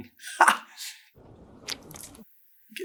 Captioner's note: splurts